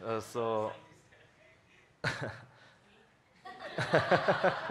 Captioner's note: faintly speaking; all laughs